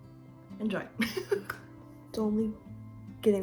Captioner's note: laugh